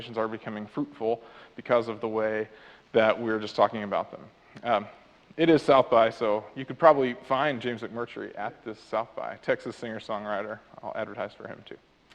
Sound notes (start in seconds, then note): none